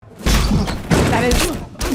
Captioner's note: headbutt cracks